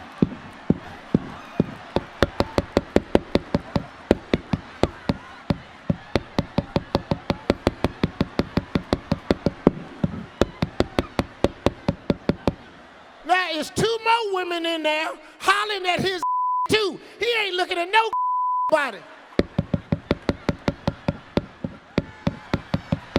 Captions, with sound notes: (microphone scraping) Now it's two more women in there hollerin' at his (beep) too. He ain't looking at no (beep) body. (microphone tapping)